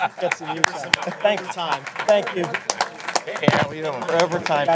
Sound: applause

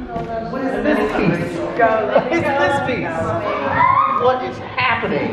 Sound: people chattering

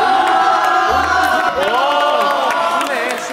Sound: clapping

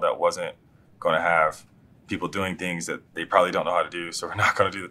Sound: laugh

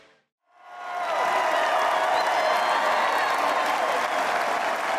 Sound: audience cheers

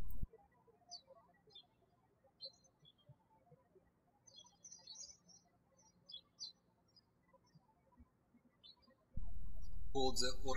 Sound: birds chirping

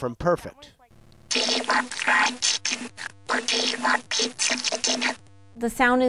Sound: digital sound

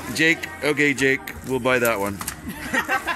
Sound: laughing

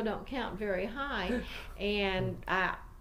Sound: interviewers laugh

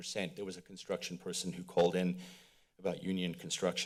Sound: exhales

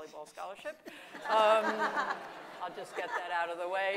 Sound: audience laughing

